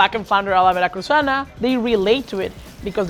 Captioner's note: speaking Spanish